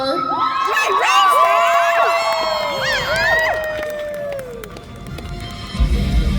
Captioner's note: applause